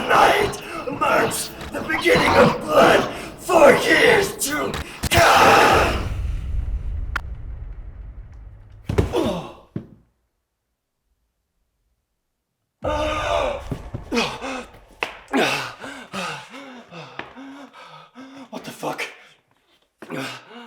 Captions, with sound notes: Tonight marks the beginning of blood for years to come! (dramatic boom) (body thuds) (Jacob groans) (Jacob groans) (Jacob panting) What the fuck?